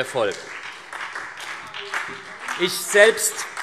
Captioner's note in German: Beifall SPD